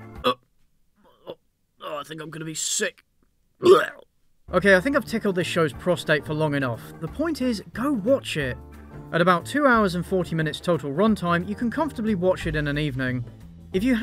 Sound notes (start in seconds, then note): 0.3 retching; 3.6 vomits